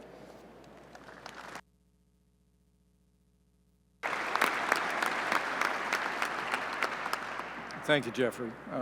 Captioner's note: applause